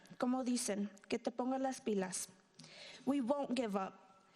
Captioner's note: speaking in foreign language